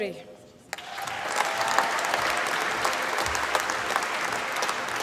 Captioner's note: applause